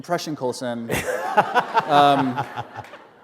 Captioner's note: laughter